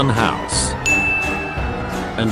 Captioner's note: ding